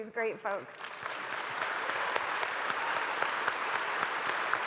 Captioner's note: audience applauding